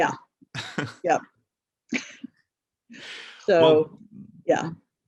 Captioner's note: laughs